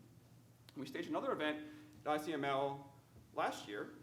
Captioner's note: speaking faintly